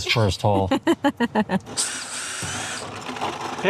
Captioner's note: drill whirring